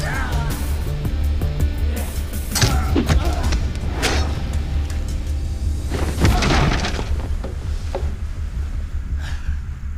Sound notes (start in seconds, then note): 2.6 thudding; 5.8 clattering